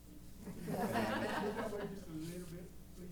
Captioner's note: laughter